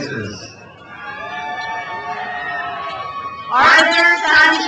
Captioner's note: crowd cheers